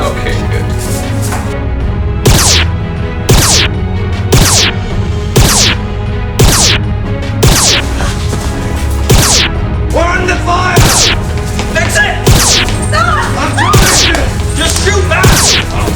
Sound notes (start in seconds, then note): 2.1 laser noises; 9.1 laser noise; 12.2 laser and battle noise